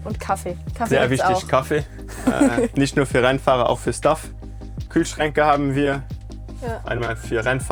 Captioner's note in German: gelächter